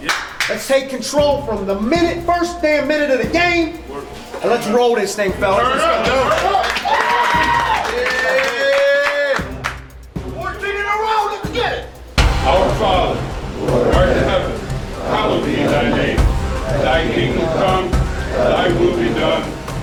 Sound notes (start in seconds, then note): 6.0 clapping - Cheering - Yelling